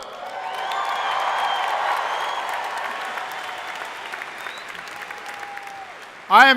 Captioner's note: crowd applauding; crowd cheering